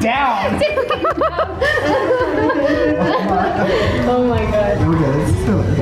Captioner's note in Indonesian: Ketawa